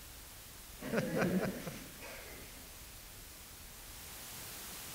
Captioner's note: audience laughter